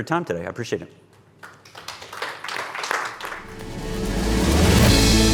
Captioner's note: audience applauds; upbeat music